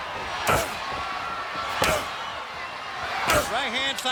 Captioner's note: Nash and Booker grunting